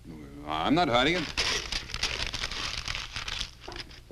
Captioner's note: paper crinkling